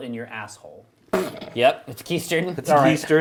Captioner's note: giggles